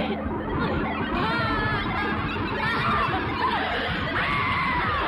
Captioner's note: scream